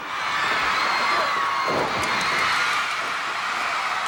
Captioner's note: crowd cheers